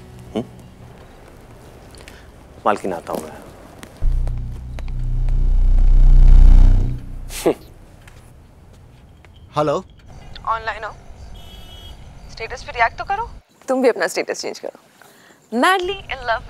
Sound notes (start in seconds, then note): 7.1 Rishi sharply exhales